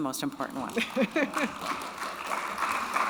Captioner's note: audience applaud; laughs